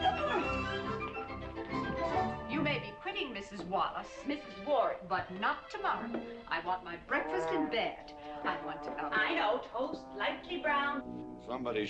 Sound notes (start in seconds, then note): 0.6 mrs. warren grunts